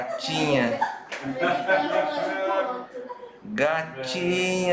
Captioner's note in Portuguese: risos